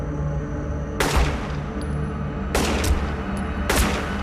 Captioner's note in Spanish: Disparos